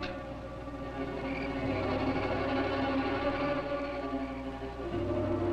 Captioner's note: insects chirping